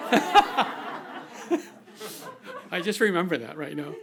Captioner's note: audience laughing